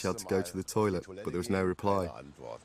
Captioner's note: voiceover